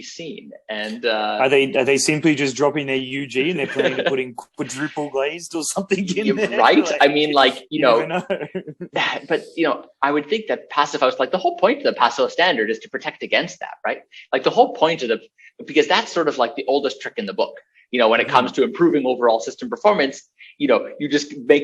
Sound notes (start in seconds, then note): 3.4 BOTH laugh